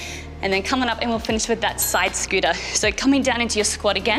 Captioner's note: bell chimes